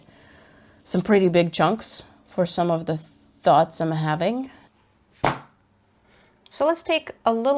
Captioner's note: fabric plonks on the table